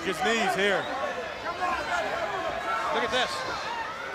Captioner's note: crowd chatter